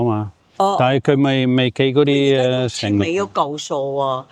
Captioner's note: speaking in foreign language